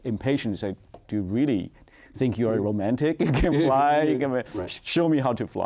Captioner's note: laughs